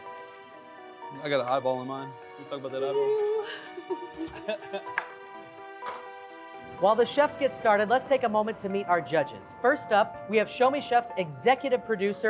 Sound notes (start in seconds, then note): 2.8 laughs